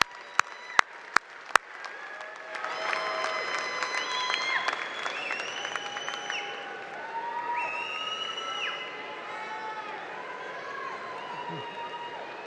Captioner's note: applause